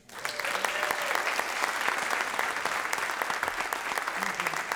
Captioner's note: applause